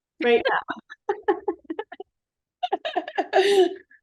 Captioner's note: laughter